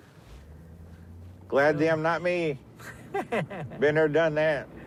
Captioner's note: laughs